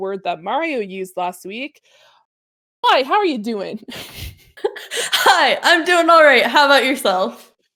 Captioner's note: laughter